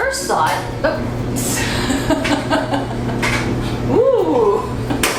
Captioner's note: laughing